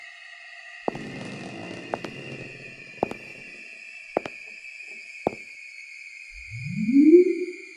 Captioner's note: football rolling